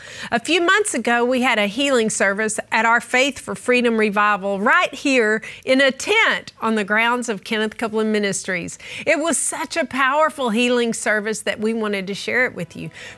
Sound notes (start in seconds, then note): none